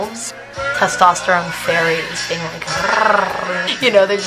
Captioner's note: purr